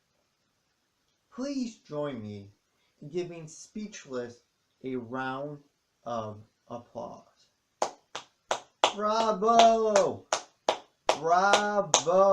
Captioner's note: stops clapping; claps